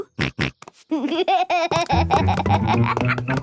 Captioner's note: snorts, giggles